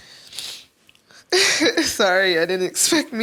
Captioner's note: laughing